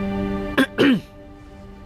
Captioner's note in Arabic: سعال